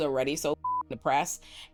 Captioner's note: beep